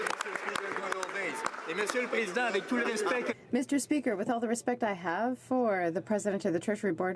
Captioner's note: some Applause